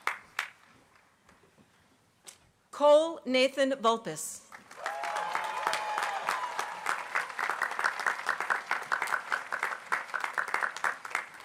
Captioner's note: applause